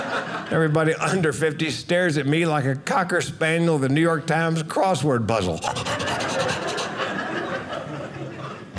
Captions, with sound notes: Everybody under 50 stares at me like a Cocker Spaniel of the New York Times crossword puzzle. (panting like a dog) (audience laughing)